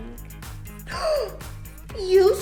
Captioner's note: gasps